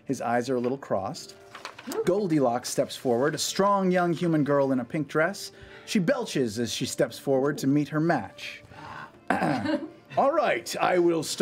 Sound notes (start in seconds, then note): 9.2 belch